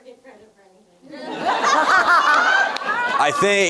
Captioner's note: all laughing